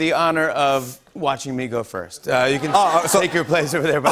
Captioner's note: laughter